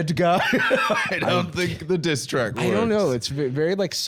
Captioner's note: laughs